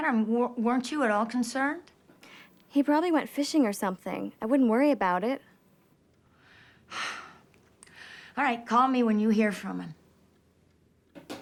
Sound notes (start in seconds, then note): 6.9 Rose sighs; 11.2 phone thudding